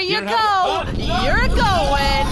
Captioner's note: humming, distortion, Pleck starts yelling